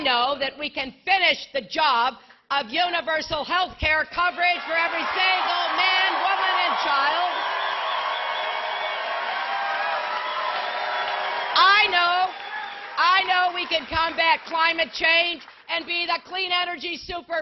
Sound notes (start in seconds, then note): 15.4 applause